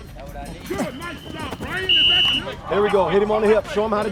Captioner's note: coaches instructing; whistle blows